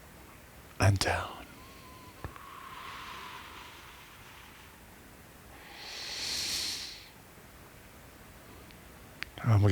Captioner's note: breathing